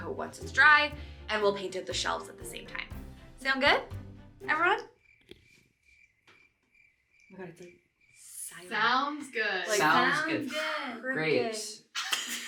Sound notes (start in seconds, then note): 4.8 crickets chirping